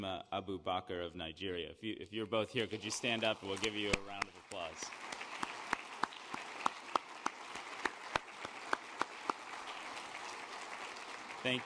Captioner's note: applause